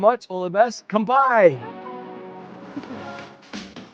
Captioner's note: speaks in foreign language